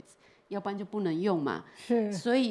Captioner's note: Mandarin